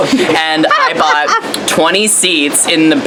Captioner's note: Leslie laughs